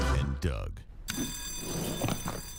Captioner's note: bell ringing